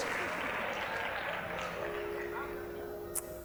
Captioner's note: scattered applause